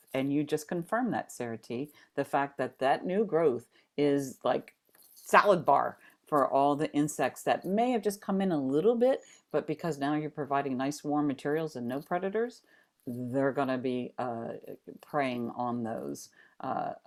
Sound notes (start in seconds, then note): none